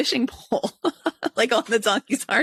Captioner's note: chuckles